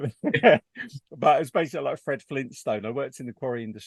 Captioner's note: both laugh